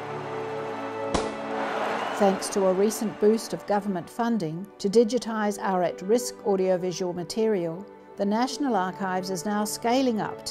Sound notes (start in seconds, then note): 1.0 starter gun pops